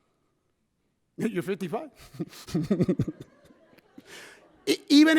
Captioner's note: laughs